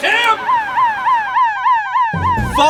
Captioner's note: siren Wails